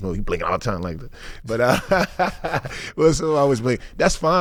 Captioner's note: laughing